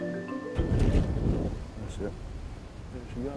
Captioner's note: boom!